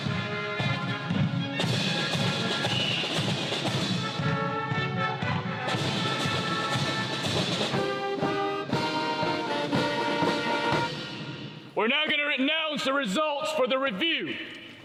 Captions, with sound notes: (whistle blowing) (upbeat music) - We're now going to announce the results for the review.